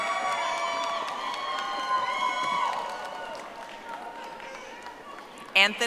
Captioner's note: audience applauding